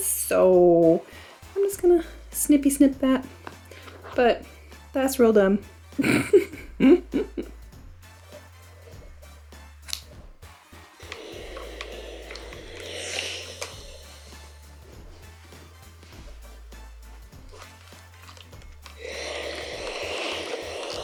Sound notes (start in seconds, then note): 6.0 laughing; 8.3 upbeat music; 11.3 sizzle